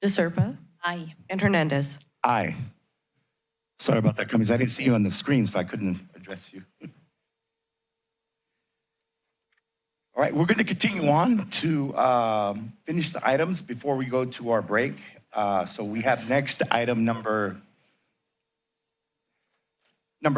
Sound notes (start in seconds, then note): 7.0 chuckles